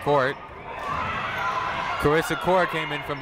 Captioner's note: people shouting in the crowd